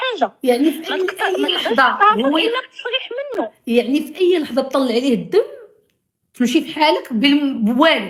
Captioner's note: laughs